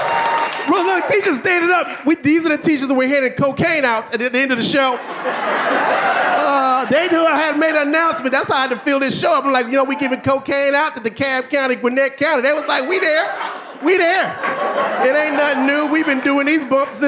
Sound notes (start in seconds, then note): 6.3 audience laughing